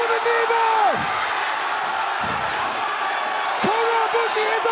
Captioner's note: crowd cheering